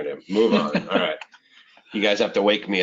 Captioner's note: chuckling